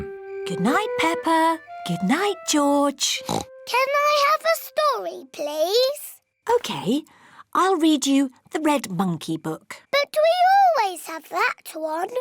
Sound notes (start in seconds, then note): 3.2 oinks